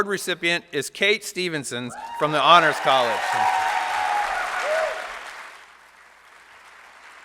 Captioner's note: applause